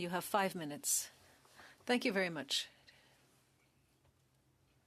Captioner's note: speaking French